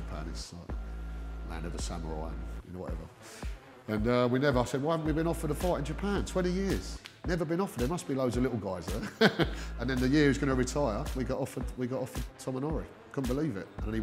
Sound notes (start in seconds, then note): 8.9 laughter